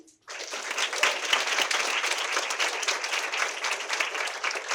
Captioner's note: audience applauding